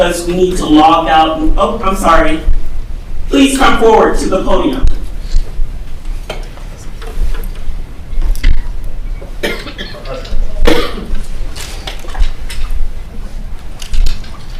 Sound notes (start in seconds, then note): 10.1 speaking faintly